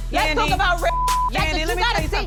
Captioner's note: beep